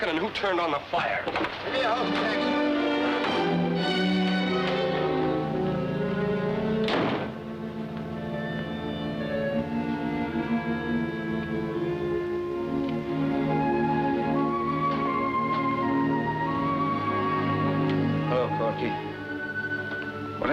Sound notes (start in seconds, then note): 1.7 indistinct chatter; 3.0 dramatic music; 6.8 door closes; 8.1 mellow music